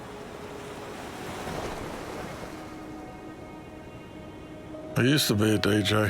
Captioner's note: waves splashing; gentle music